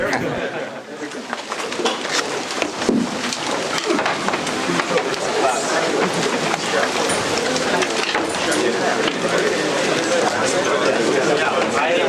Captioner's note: background chatter